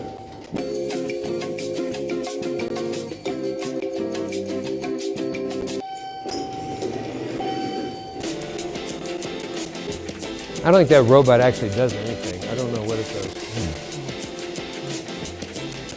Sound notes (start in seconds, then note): 0.2 elevator music; 5.8 elevator dinging